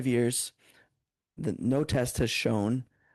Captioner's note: speaking French